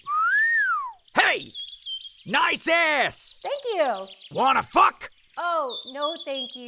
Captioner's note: hoots